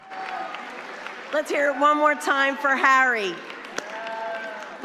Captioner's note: applause